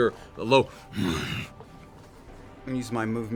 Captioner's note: snarling grunt